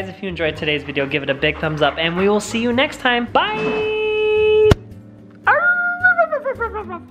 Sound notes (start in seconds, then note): 4.8 howls